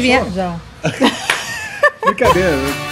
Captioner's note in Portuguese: risos